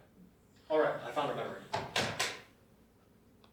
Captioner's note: door closes